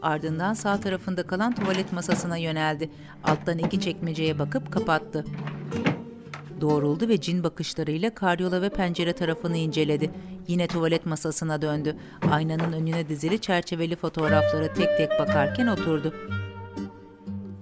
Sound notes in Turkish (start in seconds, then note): 10.5 Ayak sesi